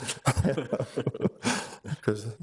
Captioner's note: both laugh